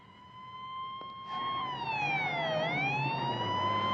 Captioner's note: Polis sireni ağlıyor